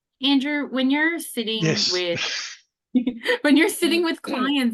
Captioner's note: laughs